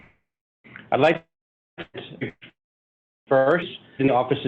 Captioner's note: audio fading away